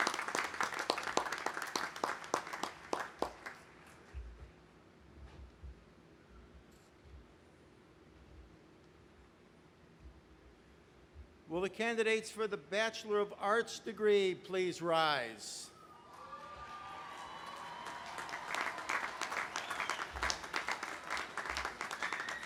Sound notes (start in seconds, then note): 15.8 cheering; 19.2 audience applauding